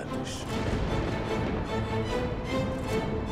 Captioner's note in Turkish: Gök gürültüsü efekti; Müzik - Gerilim